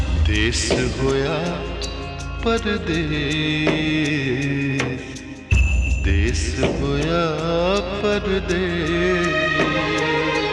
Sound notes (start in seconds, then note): none